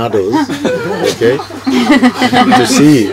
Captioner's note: more laughter